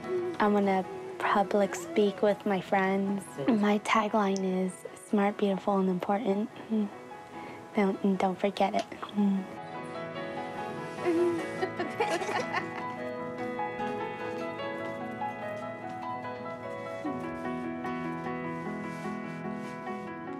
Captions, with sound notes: I wanna public-speak with my friends. My tag line is, 'Smart, beautiful and important. 'And don't forget it.' (BOTH LAUGH) (GENTLE MUSIC CONTINUES)